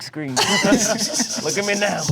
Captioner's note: chuckling